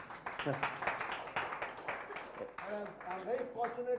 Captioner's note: applause